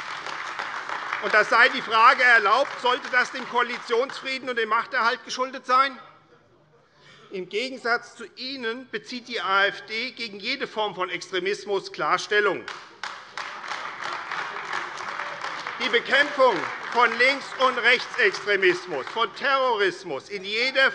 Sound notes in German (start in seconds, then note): 12.6 Beifall AfD - Zurufe CDU: Oh!